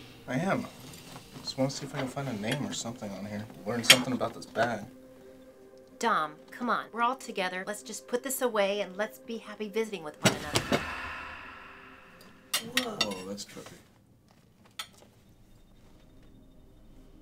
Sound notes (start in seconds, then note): 10.2 book thudding; 10.4 soft dramatic music